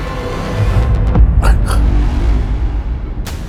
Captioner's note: gasping